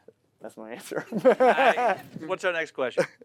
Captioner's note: laughs